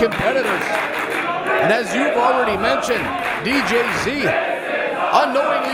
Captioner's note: applause